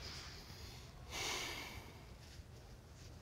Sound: sighs

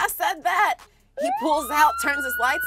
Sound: police siren

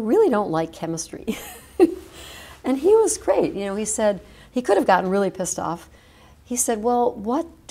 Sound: chuckle

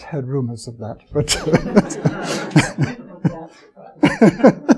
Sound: chuckles

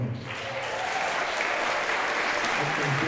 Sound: applause

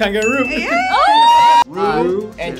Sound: group cheering

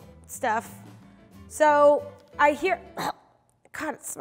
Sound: coughing

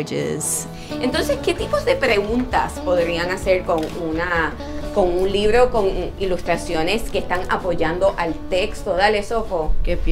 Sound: speaking Spanish

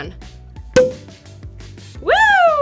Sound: cork pops

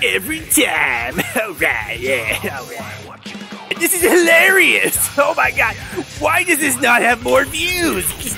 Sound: laughs; laughs

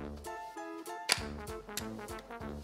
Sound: snap

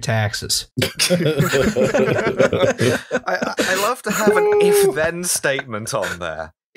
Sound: laughter

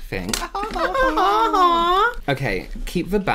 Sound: fake Laugh

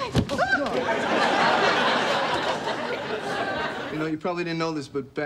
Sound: Rachel shrieks; audience laughing

